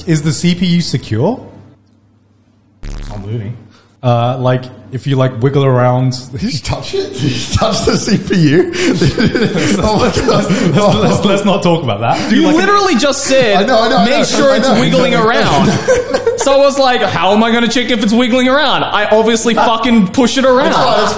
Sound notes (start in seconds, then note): 2.8 buzzing noise